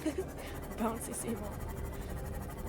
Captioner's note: laughs